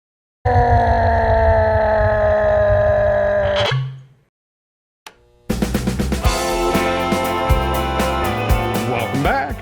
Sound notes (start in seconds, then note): 0.8 yelling; 5.5 upbeat music